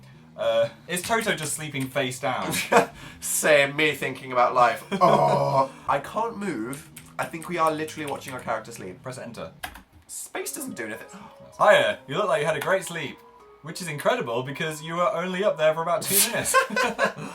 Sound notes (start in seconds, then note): 11.1 gasps; 16.1 both laugh